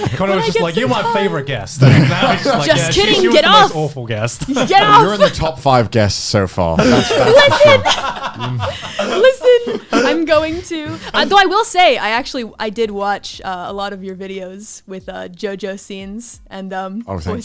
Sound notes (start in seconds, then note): 0.0 laughs; 6.7 laughs